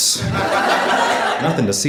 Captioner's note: audience laughing